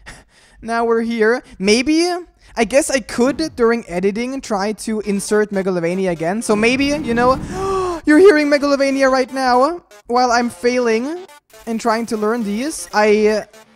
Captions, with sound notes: Now we're here. Maybe... I guess I could during editing try to insert Megalovania again so maybe you know *gasps* you're hearing Megalovania right now, while I'm failing and trying to learn these.